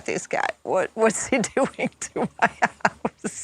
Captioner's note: laughs